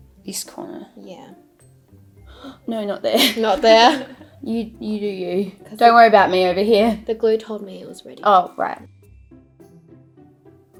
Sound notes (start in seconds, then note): 3.1 laughing